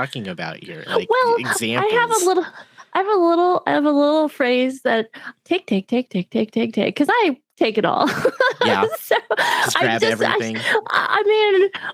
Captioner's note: laughs